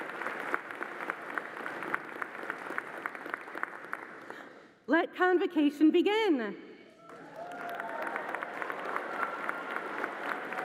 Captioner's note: cheering and applause